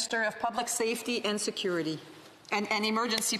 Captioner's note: speaking French